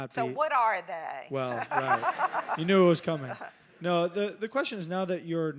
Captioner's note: laugh